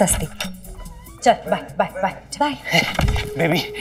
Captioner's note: Adi panting